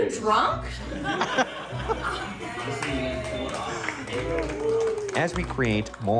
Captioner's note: crew laughing and applauding